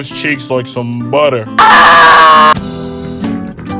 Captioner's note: screaming